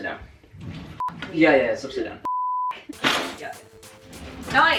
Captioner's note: beep, beep